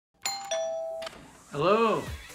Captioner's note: doorbell chimes